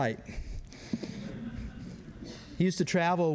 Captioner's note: laughter